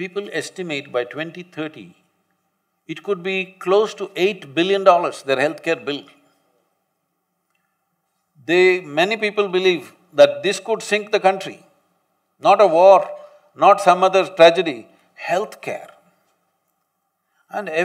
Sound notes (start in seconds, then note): none